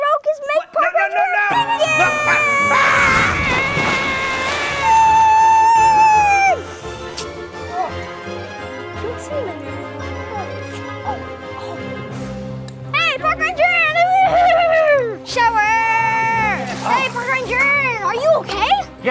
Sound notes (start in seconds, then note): 3.8 screaming